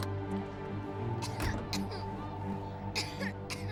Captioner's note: coughing